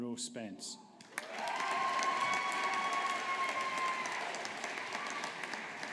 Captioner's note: audience applauding